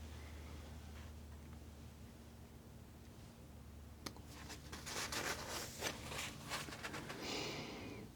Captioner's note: scratching